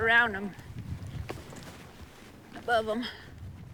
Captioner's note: horse clopping